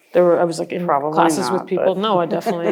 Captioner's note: laughter